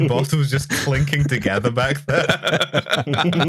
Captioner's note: laughter